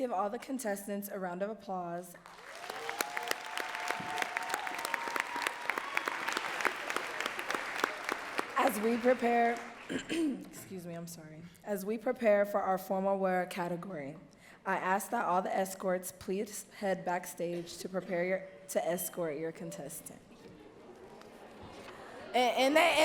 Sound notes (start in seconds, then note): 6.0 audience cheering and clapping